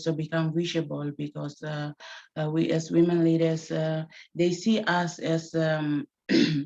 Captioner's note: clears throat